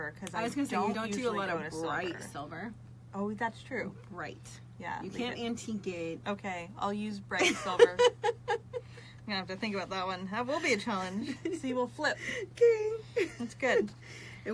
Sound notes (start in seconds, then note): 7.4 laughs